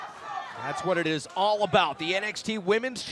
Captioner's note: fans chanting